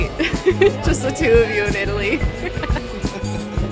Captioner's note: laughs